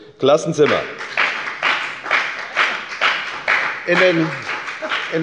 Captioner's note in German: Lebhafter Beifall bei der FDP